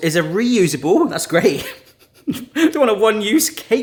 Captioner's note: laughs